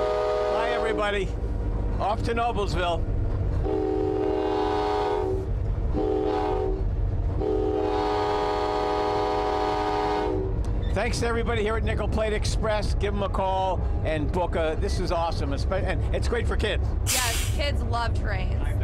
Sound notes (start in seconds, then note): 3.6 horn blasts